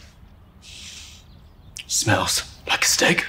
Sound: sniffs

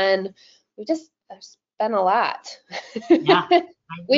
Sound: laughs

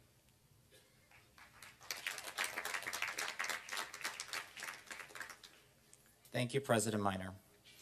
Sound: applause

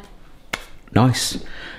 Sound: hands clap

